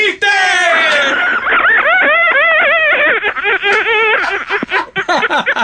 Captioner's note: laughing